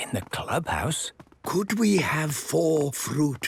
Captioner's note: speaking quietly